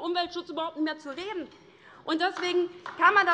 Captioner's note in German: Beifall DIE LINKE